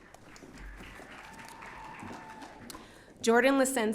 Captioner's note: audience cheering